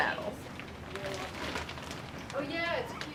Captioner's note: crinkling